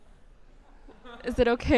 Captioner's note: chuckle